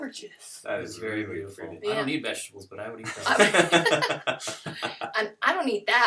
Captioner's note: laughter